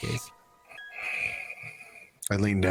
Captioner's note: deep inhale